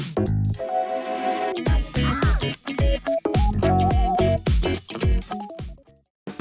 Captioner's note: haha